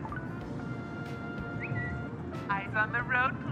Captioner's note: phone alerts